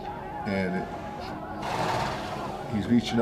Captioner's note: horse snorting